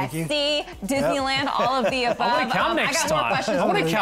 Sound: laughs

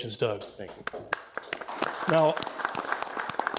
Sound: attendees applauding

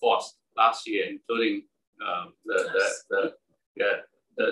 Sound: laugh

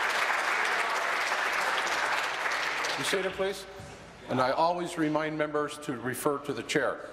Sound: applause

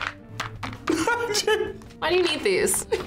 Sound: laughs

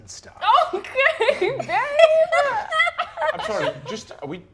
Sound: laughs; laughing

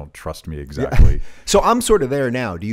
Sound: chuckles

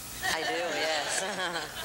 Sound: laughter

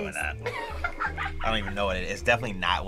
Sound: React laughs

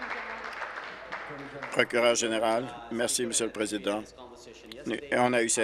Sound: applause

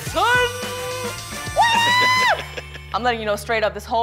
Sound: laughs

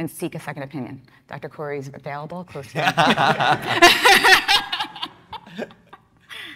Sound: everyone laughing

